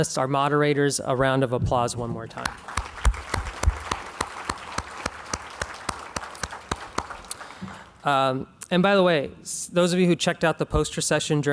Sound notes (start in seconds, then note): 2.4 clapping